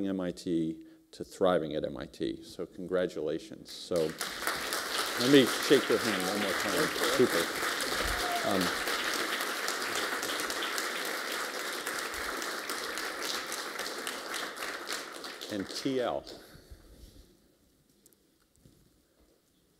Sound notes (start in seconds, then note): 4.1 applause; 7.8 applause